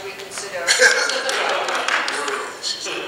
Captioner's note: laughing